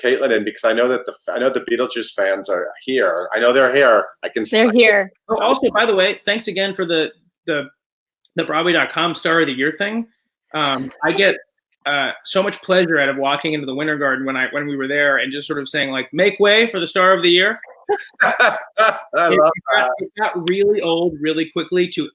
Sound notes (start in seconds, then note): 18.0 laughter